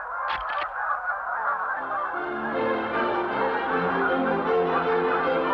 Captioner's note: geese sounds